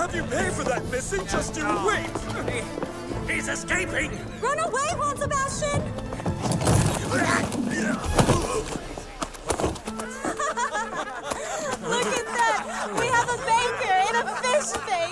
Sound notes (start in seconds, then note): 7.0 he groans; 10.0 she laughs